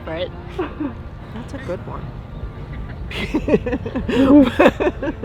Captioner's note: laughs